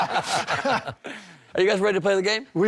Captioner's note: laughter